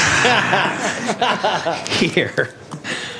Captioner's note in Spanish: risas